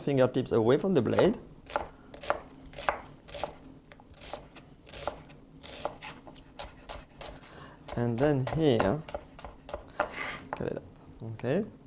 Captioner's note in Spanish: sonido cortando